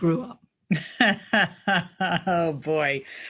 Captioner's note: laughing